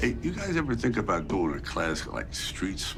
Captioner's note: none